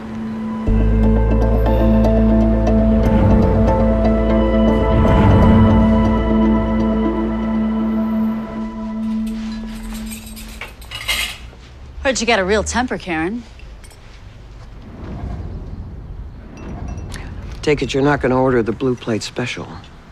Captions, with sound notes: ...with arock. [instrumental music] [cutlery rattling] Heard you got a real temper, Karen. Take it you're not going to order the blue plate special?